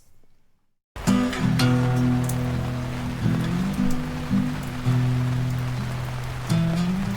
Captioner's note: rain pattering; gentle acoustic music